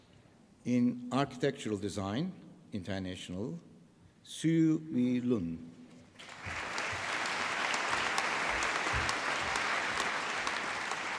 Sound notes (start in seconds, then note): 6.2 applause